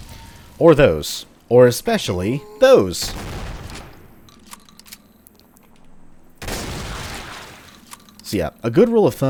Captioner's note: fwoosh; boom